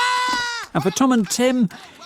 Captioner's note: screams